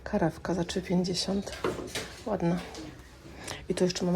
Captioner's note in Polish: parsknięcie